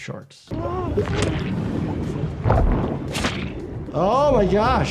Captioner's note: swimmer gasps